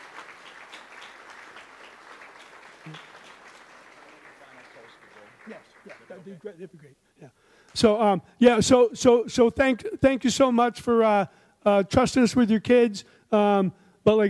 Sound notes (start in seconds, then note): 4.2 man in audience speaks off mic